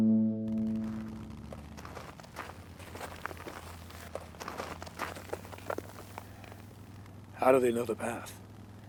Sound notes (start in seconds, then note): 0.6 footsteps